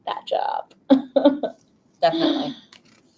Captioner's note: laughs